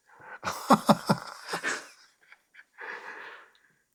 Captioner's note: laughter